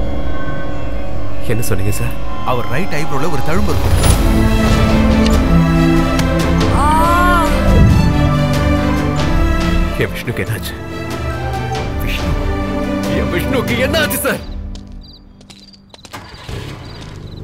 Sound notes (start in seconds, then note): 6.6 groans